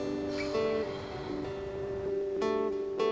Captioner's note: Fern sighs; slow guitar music continues